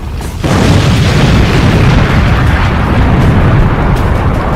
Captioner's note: bomb banging